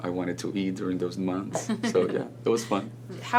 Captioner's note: laughs